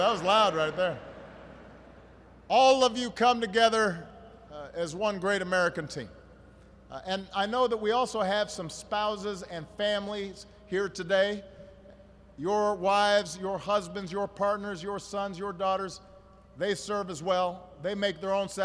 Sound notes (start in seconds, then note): 0.9 laughter